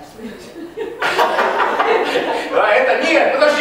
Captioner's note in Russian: Смех